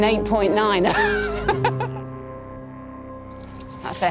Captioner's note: laughing